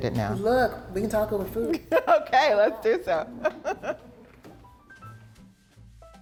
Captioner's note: laughs; comfortable music